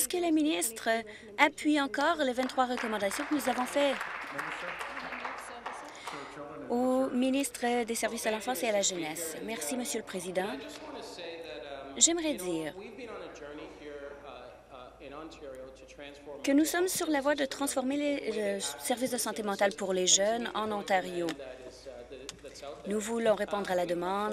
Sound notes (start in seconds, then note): 5.8 applause